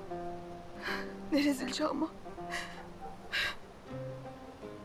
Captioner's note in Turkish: Müzik - Duygusal; Rüzgâr sesi; Ağlama sesi